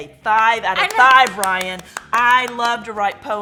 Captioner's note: claps